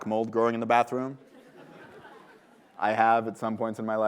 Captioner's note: laughter